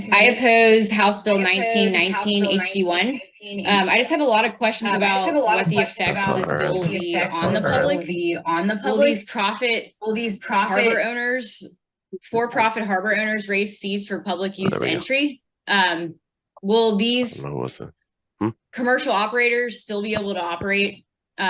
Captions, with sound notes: I oppose House Bill 1919 HD1. I just have a lot of questions about what the effects this bill be on the public? Will these profit harbor owners? For profit harbor owners raise fees for public use entry? Will these- - (faintly speaks) Hmm. - Commercial operators still be able to operate?